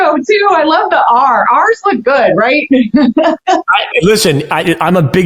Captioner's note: chuckles